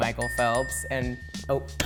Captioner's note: three dings